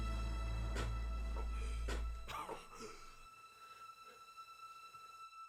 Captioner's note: Meathook Man grunts; poignant music continues; Grayson coughing